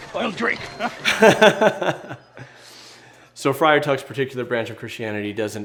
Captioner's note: laughs